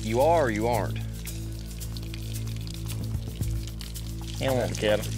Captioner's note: water hose running